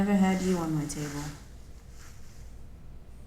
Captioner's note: none